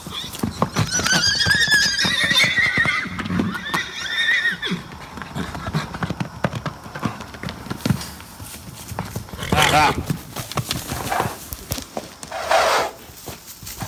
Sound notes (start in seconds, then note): 0.0 horse squealing